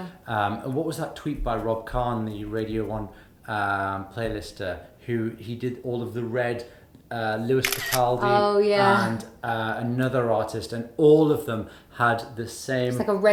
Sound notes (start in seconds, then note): 7.6 camera shutter clicks